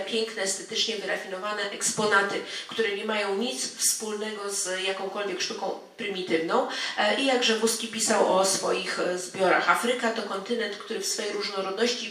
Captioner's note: speaking in foreign language